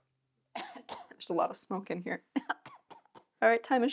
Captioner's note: coughs